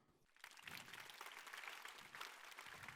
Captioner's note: applause